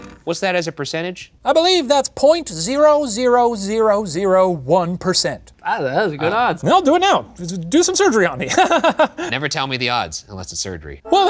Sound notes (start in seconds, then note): 8.4 chuckles